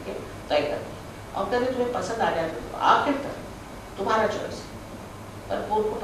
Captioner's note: hindi